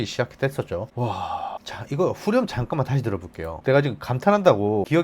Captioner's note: sigh